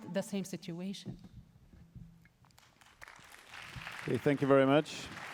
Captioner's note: applause